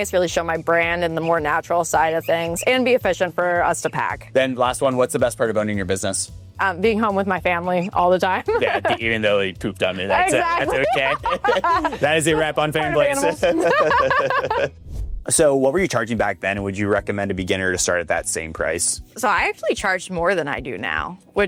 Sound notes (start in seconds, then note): 8.2 chuckles; 9.8 laughs; 13.5 both laughs